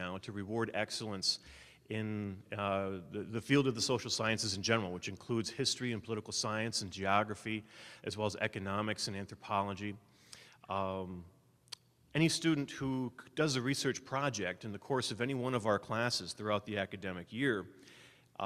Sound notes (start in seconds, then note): none